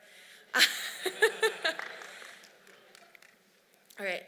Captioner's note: laughs